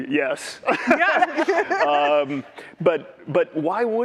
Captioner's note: laughter